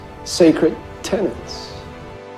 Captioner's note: voiceover